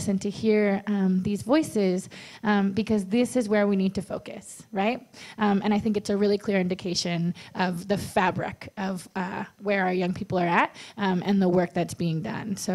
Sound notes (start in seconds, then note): none